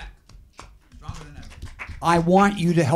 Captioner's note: applauding